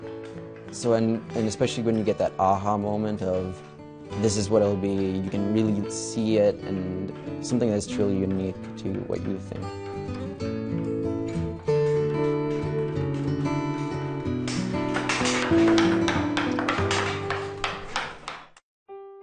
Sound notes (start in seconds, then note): 11.1 banging